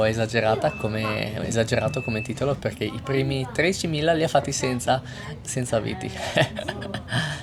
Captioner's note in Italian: risate